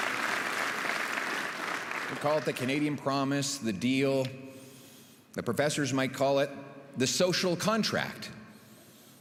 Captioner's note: applause